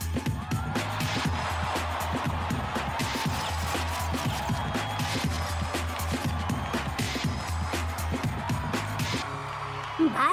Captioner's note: crowd roaring